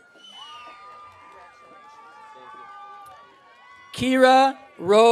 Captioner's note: audience cheering